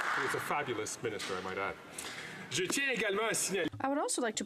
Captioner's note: some Applause